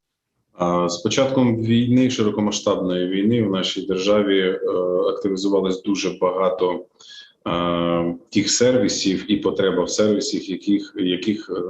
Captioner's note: foreign Language Spoken